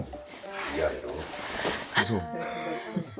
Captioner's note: hiss